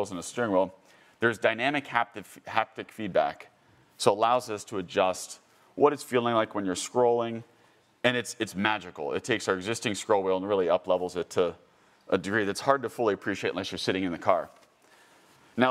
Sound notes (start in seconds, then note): none